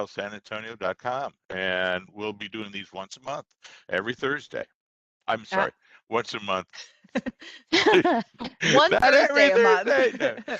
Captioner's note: others laugh